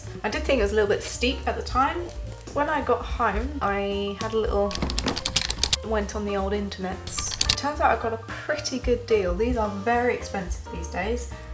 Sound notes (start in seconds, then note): 4.7 keyboard noises; 7.0 keyboard noises